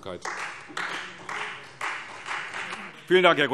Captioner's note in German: Beifall Freie Demokraten